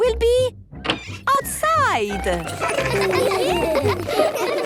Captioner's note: laughter